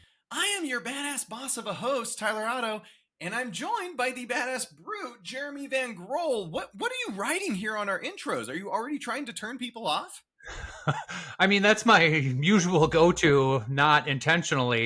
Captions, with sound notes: I am your badass boss of a host, Tyler Otto, and I'm joined by the badass brute, Jeremy Van Grohl. What are you writing here on our intros? Are you already trying to turn people off? (Laugh) I mean, that's my usual go-to, not intentionally.